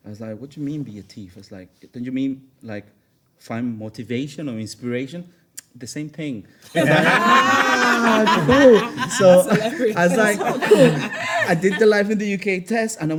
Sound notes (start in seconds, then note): 6.7 everyone laughs